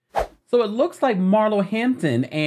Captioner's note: segue whooshing